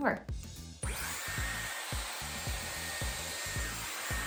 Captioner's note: brush whirring